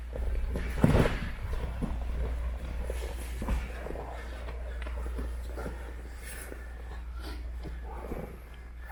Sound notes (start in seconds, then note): 0.8 slam; 4.0 fabric rustling; 5.7 heavy breathing